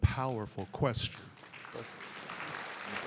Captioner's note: applause